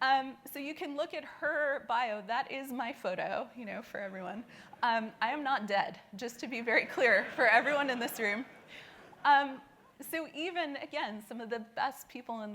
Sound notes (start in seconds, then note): 6.9 laughing